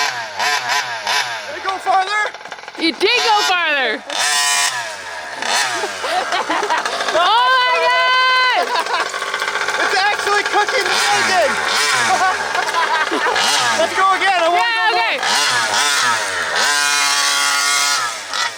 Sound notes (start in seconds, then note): 5.2 both laughing; 8.4 laughing; 12.3 laughing